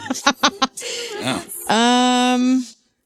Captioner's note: laughing